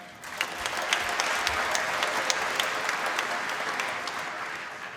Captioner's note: applause